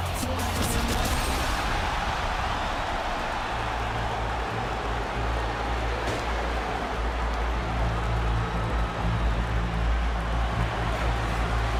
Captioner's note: crowd cheering